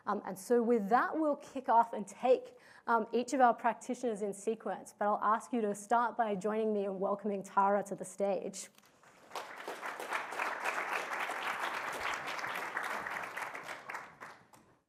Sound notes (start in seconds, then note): 8.9 applause